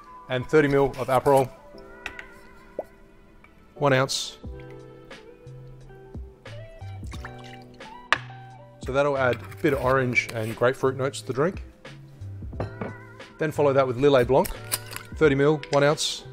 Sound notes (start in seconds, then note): 4.7 relaxing music; 6.9 liquid pouring